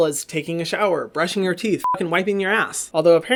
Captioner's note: beep